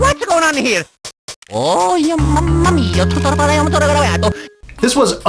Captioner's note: Mario mutters some gibberish that definitely isn't Italian